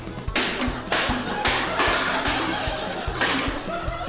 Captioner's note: laughter